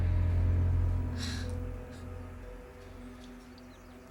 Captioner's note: scoffs